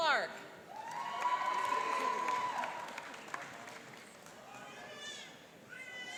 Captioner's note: cheering and applauding